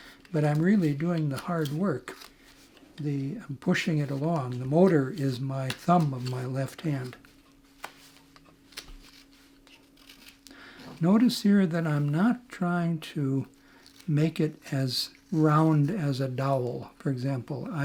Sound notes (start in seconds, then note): 7.2 wood scraping